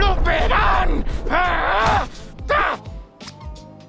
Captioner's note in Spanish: Gruñe